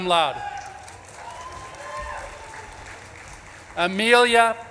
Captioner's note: audience claps and cheers